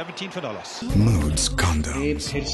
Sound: ad playing on TV

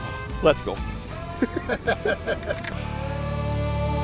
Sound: laughing

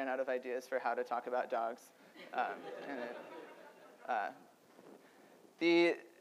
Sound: audience laughter

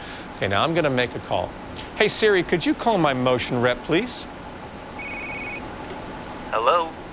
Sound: ringing Noises

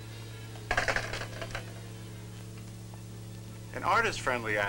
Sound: phone clatters

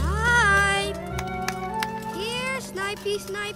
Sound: clap, clap, clap

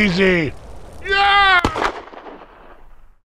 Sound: loud Screaming

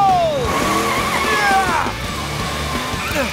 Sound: straining

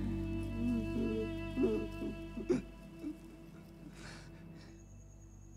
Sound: Giri cries

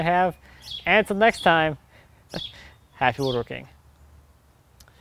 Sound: laughs

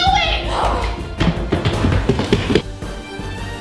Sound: loud footsteps; dramatic music

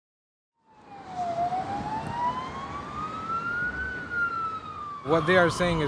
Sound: sirens

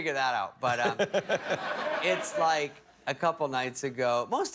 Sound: laughter

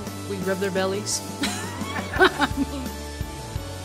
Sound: laughter

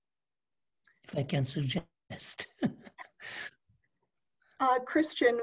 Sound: laughter

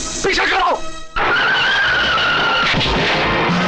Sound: tire Screeching

